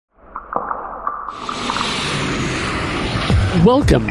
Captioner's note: air whooshing